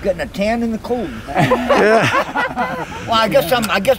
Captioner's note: everyone laughing